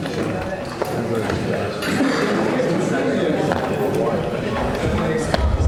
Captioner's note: audience members conversing